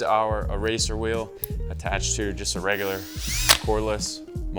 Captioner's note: drill humming